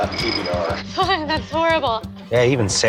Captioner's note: laughs